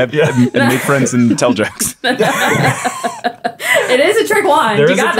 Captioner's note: everyone chuckling